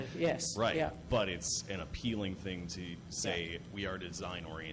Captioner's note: voiceover